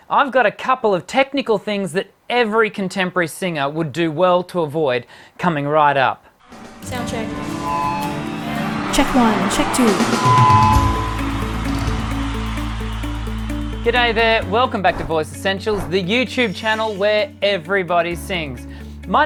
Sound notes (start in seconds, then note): 7.9 audience cheers; 7.9 feedback echoes; 10.4 feedback echoes; 11.2 inspiring music